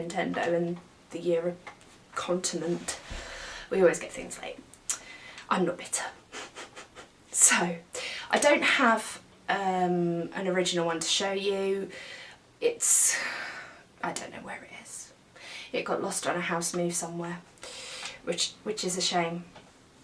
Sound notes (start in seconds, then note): 6.3 giggles